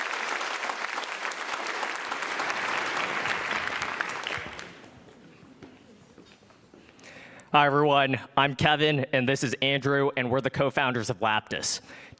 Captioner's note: applause